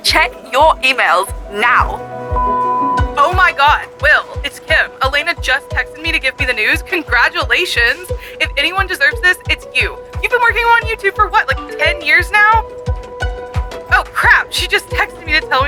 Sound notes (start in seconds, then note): 2.3 phone beeping